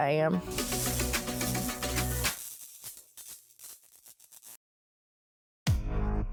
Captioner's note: electricity buzzing